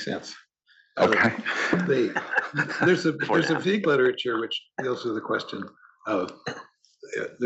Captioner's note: laugh